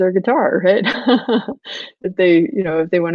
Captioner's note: laughs